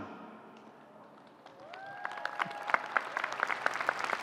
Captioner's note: applause